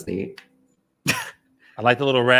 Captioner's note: chuckles